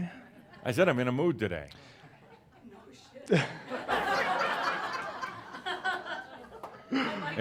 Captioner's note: someone says “No shit,” laughter